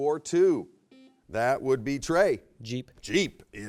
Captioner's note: buzzer beeps